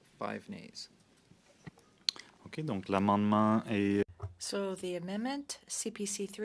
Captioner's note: speaking French